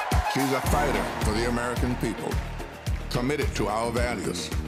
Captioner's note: cheers and applause